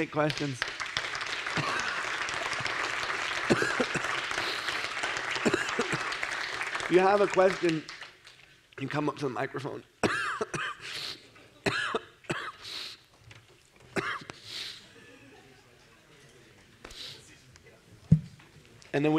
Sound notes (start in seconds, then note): 4.2 audience claps